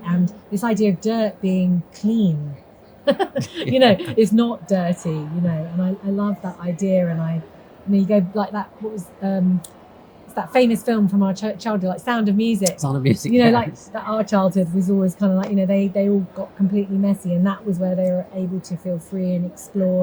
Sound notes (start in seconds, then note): 3.0 laughs